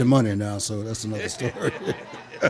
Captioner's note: audience laughing; laughs